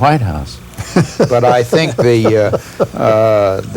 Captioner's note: laughter